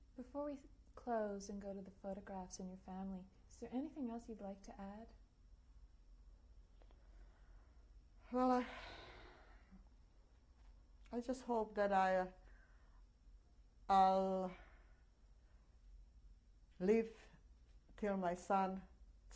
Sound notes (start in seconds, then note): 8.5 sighs; 14.2 pauses for 3 seconds